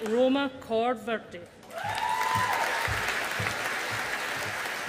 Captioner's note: audience applauding